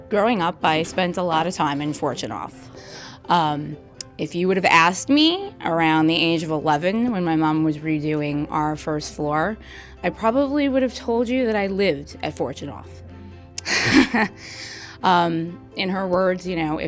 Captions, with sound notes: Growing up I spent a lot of time in Fortunoff. Ahm, if you would have asked me around the age of 11, when my mom was redoing our first floor I probably would have told you that I lived at Fortunoff. [ laugh ] Ahm, in her words, you know,